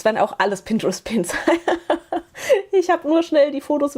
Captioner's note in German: gelächter